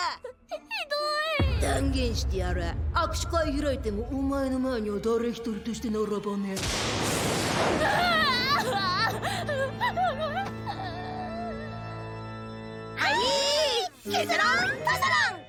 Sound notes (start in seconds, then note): 7.8 sobbing